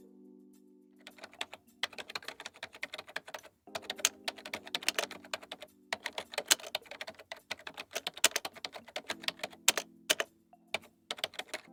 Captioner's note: keybord typing sound